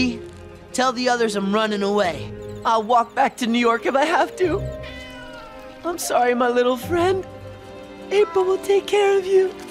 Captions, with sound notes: tell the others I'm running away. I'll walk back to New York if I have to. [meowing] I'm sorry, my little friend. April will take care of you.